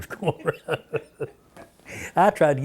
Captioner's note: laughter